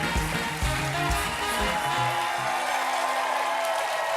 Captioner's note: applause; cheers and applause